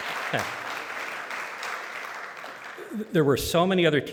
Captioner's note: applause